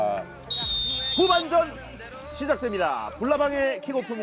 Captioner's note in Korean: 호루라기 소리